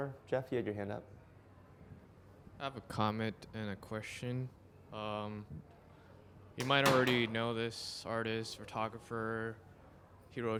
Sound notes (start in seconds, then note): 2.7 voiceover